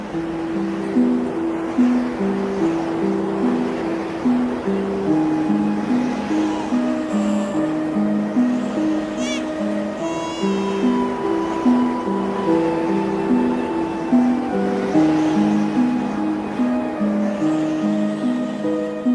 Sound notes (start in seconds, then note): 8.4 baby crying; 13.4 mysterious music